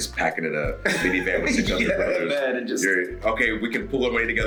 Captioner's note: laugh